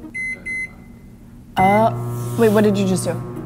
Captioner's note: beeping